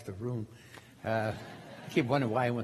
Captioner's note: crowd laughing